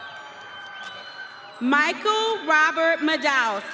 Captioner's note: audience cheering